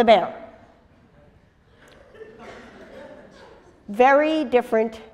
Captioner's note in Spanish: pausa